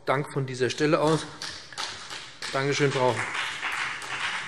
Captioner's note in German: Beifall BÜNDNIS 90/DIE GRÜNEN